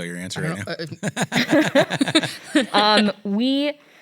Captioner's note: laughs